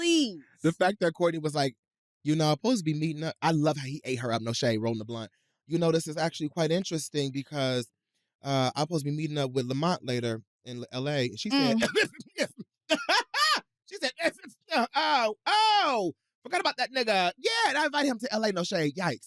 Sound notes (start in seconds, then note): 12.9 stammers, laughs; 14.1 stammers